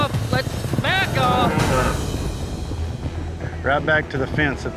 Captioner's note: mooing